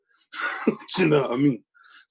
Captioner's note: laughing